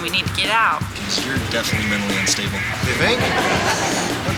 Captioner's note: audience laughing